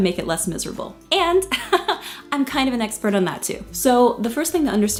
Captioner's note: chuckles